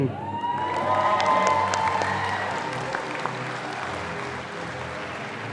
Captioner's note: audience applauding